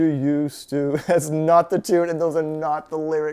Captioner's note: chuckles